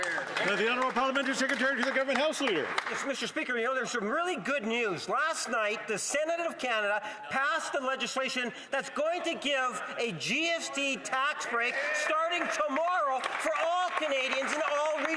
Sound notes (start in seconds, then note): 3.8 some Applause